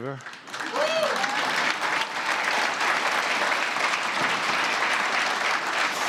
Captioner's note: applause